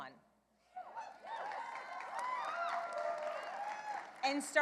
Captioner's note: clapping